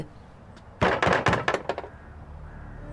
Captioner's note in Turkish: Kapı tıklanma sesi